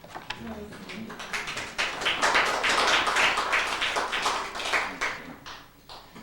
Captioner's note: applause